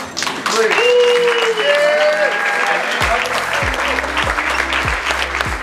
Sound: audience clapping, cheering

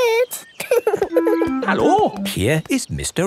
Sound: laughing

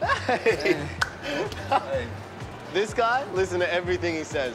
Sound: chuckles

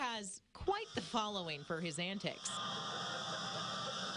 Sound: nat scream

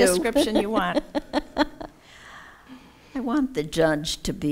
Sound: laughing

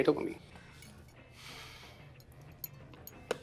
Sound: sighs

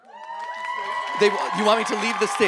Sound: audience cheering

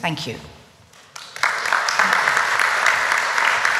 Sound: applause

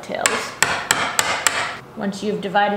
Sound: banging

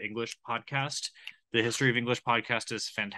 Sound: snaps fingers in agreement

